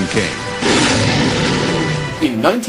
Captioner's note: roaring